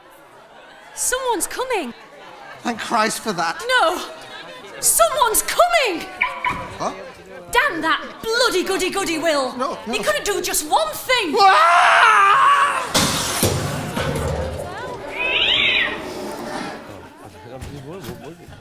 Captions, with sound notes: Someone’s coming. Thank Christ for that! No. Someone’s coming! [Will’s van locks with a beep] Damn that bloody goody-goody Will. He couldn’t do just one thing. [George screams] [George crashes noisily into the store cupboard]